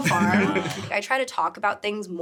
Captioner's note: laughing